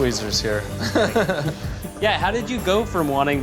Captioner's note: laughs